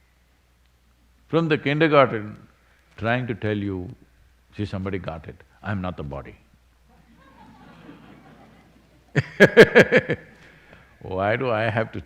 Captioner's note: laughter